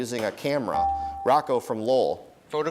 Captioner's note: dinging